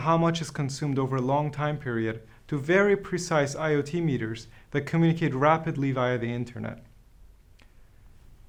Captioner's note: click